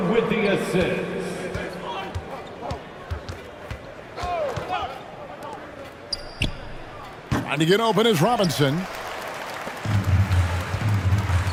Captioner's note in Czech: Potlesk